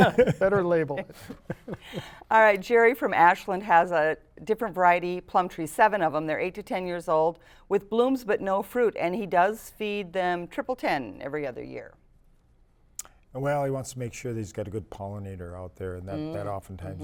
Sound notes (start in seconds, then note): 0.0 laughter